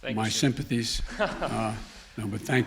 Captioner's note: laughs